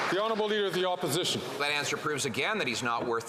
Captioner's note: some Applause